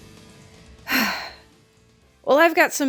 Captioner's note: sigh